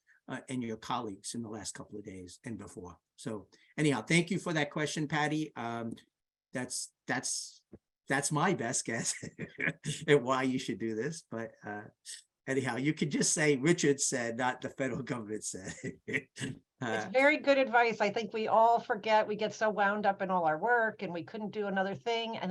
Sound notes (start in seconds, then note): 8.9 laughs; 15.6 laughs